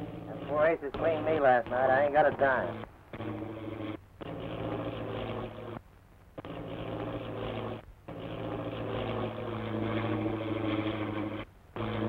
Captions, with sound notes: - Them four aces cleaned me last night. I ain't got a dime. (engine sputtering)